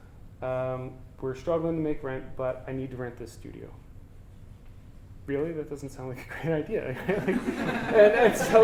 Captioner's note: audience: Laughter